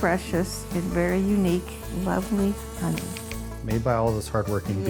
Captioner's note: bee buzzing